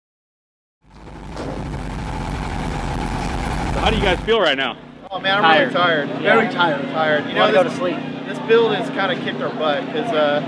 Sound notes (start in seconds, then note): 0.9 engine rumbles